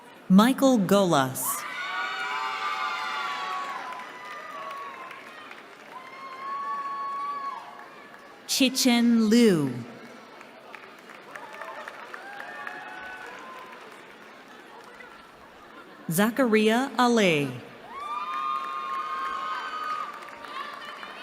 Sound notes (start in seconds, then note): 1.6 cheering; 10.6 cheering; 17.8 cheering